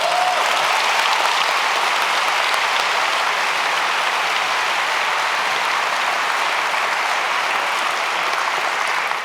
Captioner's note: applause